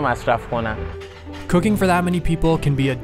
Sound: voiceover

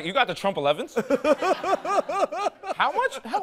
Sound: laughter

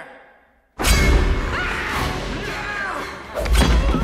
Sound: screaming

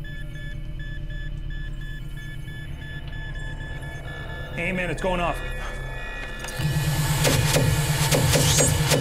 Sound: device begins rapidly beeping

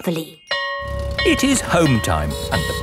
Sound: school bell ringing

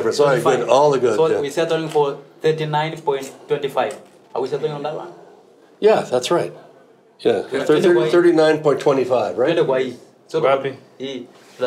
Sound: speaks Swahili

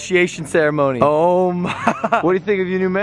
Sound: laughs

